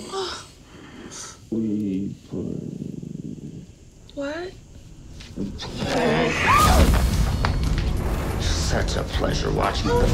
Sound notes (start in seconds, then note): 6.2 Emily screams